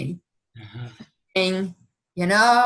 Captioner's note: chuckling